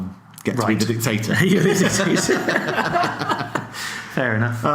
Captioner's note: laughs